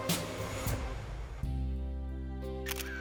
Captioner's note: camera shutter clicking